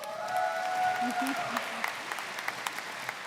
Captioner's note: applause